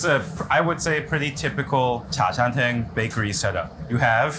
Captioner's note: speaks in foreign language